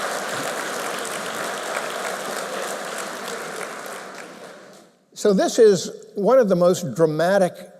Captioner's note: applause